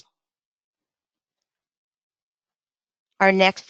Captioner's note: silence